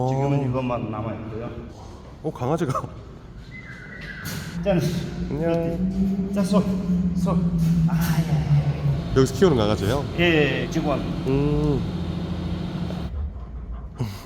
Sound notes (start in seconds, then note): 3.4 whistles